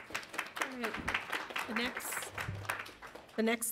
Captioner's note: audience applauds